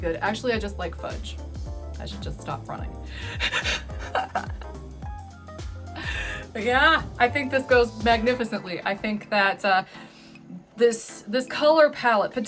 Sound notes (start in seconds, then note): 3.4 laughs